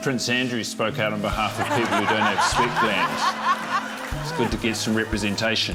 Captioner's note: laughter